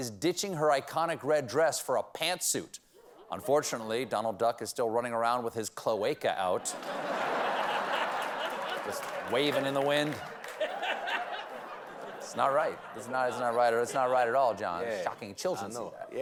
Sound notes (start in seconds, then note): 12.0 laughter